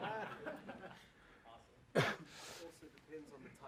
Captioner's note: laugh